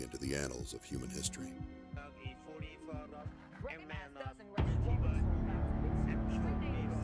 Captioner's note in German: Presse spricht im Hintergrund